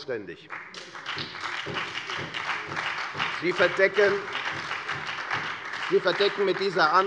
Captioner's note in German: Beifall bei der FDP und bei Abgeordneten der SPD